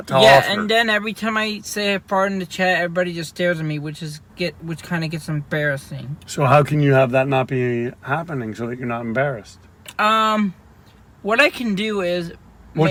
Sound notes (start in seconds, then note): none